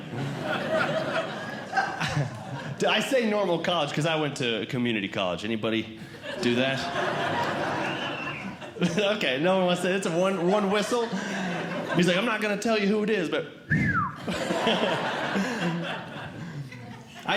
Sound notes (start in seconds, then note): 0.0 audience Laughing; 6.0 audience Laughing; 7.8 whistle; 9.6 audience Laughing; 13.6 whistles; 14.1 audience Laughing